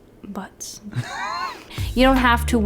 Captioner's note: snickers